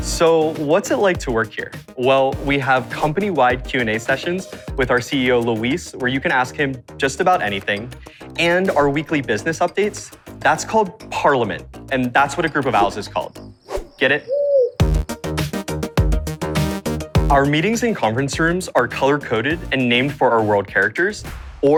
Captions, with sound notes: So, what's it like to work here? Well, we have company-wide Q&A sessions with our CEO Luis, where you can ask him just about anything, and our weekly business updates that's called Parliament. That's what a group of owls is called. -Get it? -[owl cooing] [lively music continues] Our meetings and conference rooms are color-coded and named for our world characters,